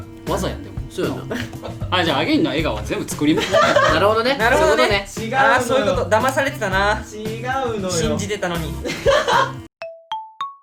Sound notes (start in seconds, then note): 8.8 laughs